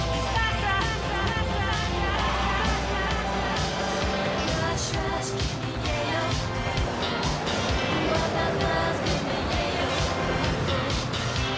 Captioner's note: tires screech